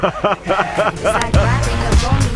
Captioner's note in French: rires